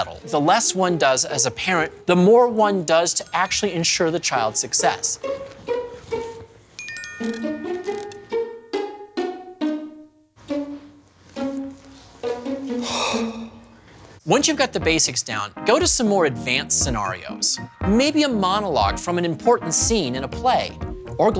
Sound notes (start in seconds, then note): 5.3 quirky music; 12.8 exhales